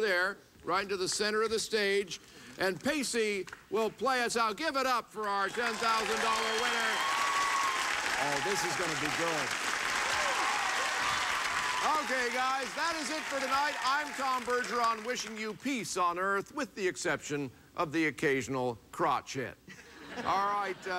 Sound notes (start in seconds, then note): 9.7 cheering; 17.5 laughs